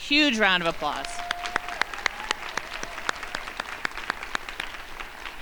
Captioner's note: crowd applauding